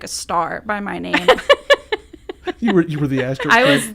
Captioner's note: laughs